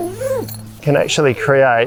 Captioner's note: zipper opening